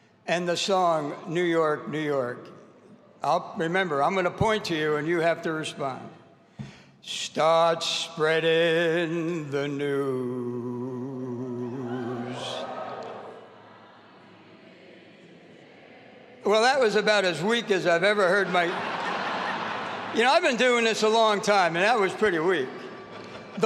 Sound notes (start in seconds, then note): 11.7 audience cheering; 19.5 audience laughing